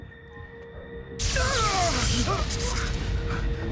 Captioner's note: electric zapping